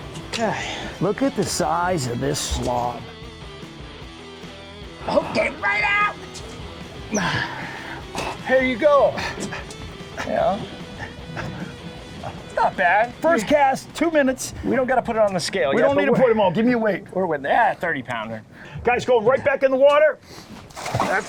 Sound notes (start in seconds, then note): 0.0 groans; 6.9 groans